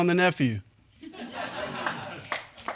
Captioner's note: audience chuckling and clapping